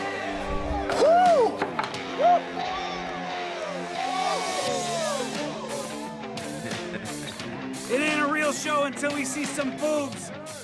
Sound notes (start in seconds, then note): 0.7 Kurt shrieks; 3.5 party guests shriek; 6.5 Kurt laughs